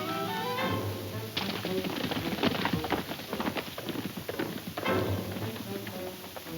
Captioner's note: suspenseful music; hooves thudding